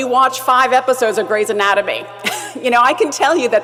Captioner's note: laugh